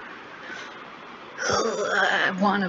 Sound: strained noise

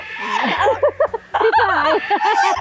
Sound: chuckled

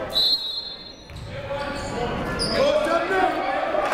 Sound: whistle blowing

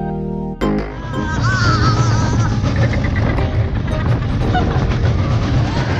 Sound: groaning and laughing

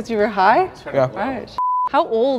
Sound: beep

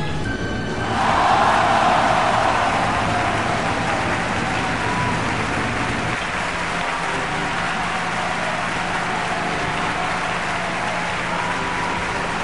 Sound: cheering

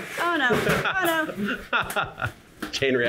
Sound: laughter

